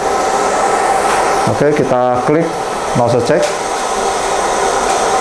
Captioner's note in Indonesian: suara mesin printer